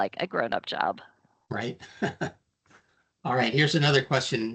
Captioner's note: chuckling